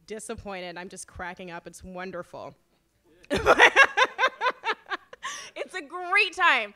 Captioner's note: laughs